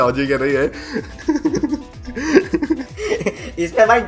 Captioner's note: laughing